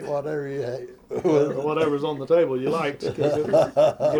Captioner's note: laughter